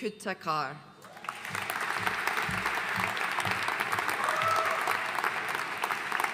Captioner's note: audience cheering and applauding